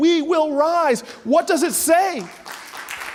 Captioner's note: audience applauding